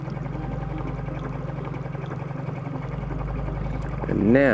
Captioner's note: boat motor hums